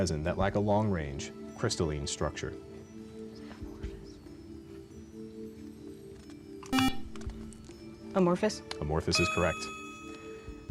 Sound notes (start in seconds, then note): 3.3 whispering; 6.7 buzzer